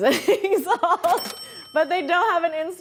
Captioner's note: cash register dinging